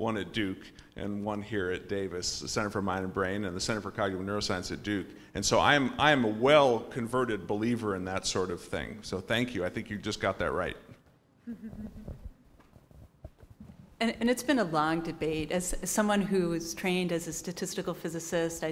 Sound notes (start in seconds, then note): 11.4 laugh